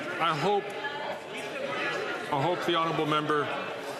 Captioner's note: none